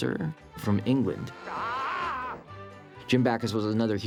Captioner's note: screams